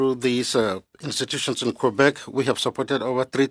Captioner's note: speaking French